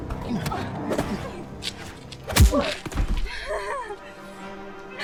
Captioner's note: punches striking; Queen Clown laughing